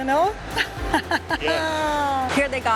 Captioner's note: laughs